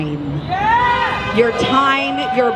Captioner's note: cheers